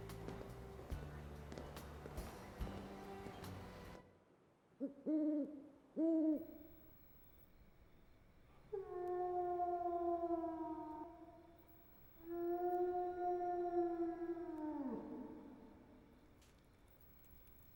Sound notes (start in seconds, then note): 5.9 owl hooting; 8.7 wolf howling